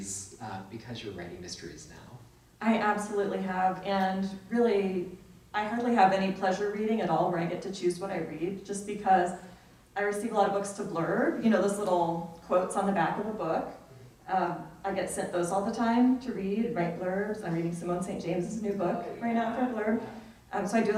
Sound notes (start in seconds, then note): none